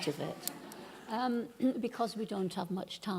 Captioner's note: laughing